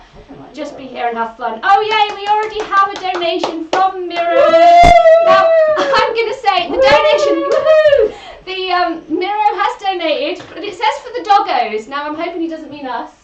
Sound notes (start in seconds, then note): 6.6 cheers